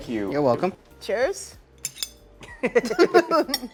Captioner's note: glasses clinking; both laughing